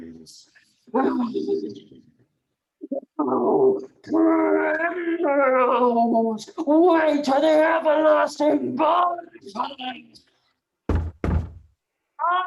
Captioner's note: knocking within